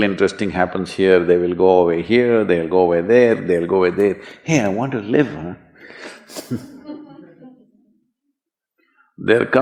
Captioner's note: few laugh